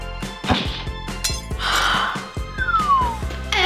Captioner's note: triumphant music; crashing; gasping